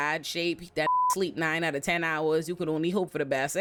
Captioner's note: beep